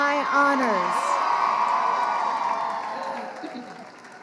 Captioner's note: crowd cheering